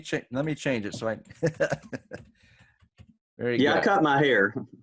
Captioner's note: laughs